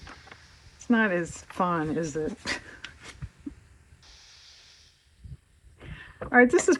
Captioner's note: laughs